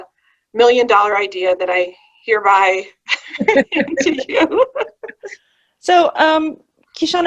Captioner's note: all laughing